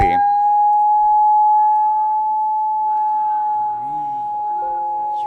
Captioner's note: high-pitched sound